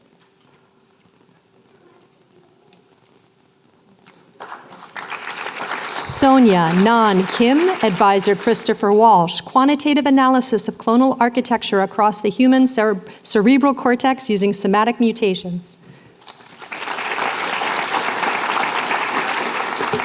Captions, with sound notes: [APPLAUSE] Sonia Nan Kim. Advisor, Christopher Walsh. Quantitative Analysis of Clonal Architecture Across the Human Cerebral Cortex Using Somatic Mutations. [APPLAUSE]